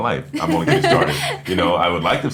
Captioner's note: laughing